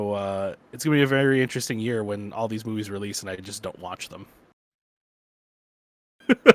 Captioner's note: laughs